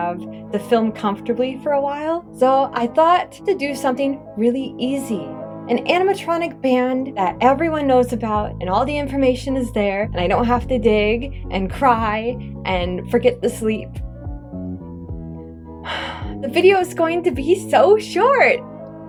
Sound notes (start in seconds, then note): 15.8 big sigh